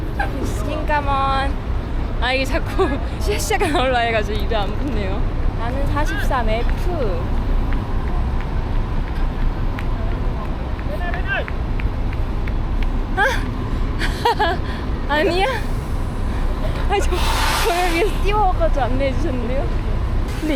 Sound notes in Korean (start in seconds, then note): 6.3 멀리서부터 뛰어오는 누군가의 발소리